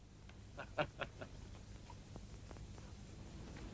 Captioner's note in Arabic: يضحك